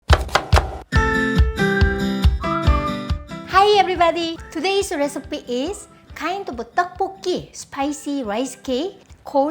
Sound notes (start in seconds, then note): 0.0 knife chopping; 0.9 upbeat music